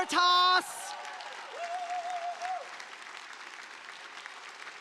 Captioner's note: audience applauding